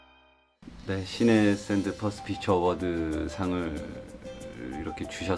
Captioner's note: speaking foreign language